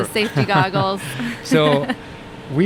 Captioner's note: chuckles